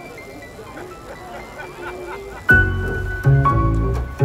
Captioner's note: laughs